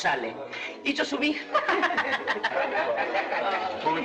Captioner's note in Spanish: Risas